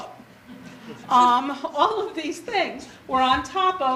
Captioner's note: audience laughter